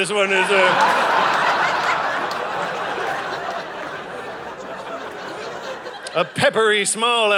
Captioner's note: audience laughing